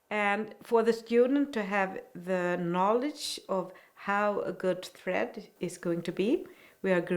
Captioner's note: none